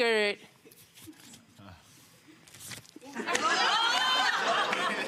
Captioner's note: paper rustles; audience laughing